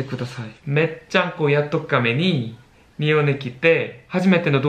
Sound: nagoya dialect

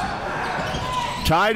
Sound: crowd cheering

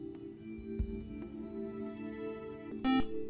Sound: buzzer

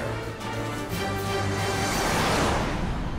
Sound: planes roaring

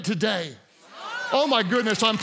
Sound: congregants cheer

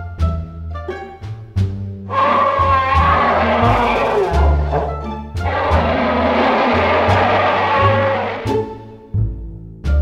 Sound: handsome screech

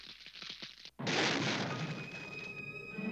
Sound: explosion

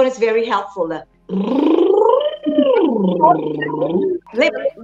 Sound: lip trilling

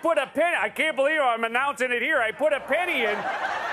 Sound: laughter

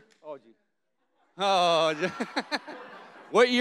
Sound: audience laughing

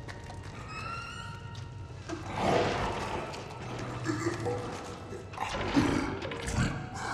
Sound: screeching and grunting nearby

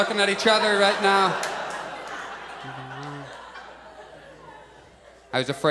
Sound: audience laughs

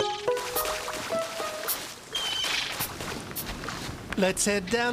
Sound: bird squawking

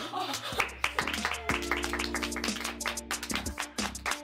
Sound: all clapping; all gasp

